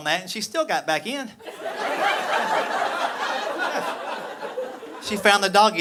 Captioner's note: audience laughing